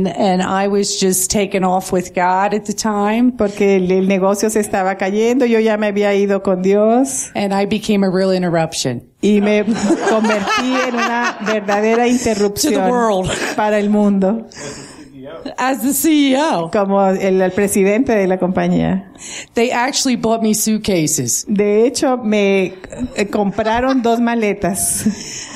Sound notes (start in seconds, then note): 9.4 laughter